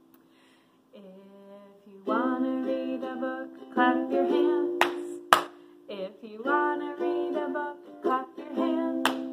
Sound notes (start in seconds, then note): 5.3 clapping